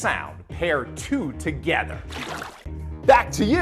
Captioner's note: water splashing